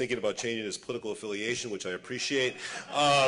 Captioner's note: laughter